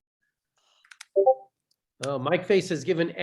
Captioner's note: dings